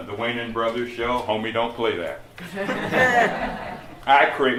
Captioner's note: laughter